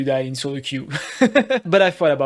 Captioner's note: nervous laugh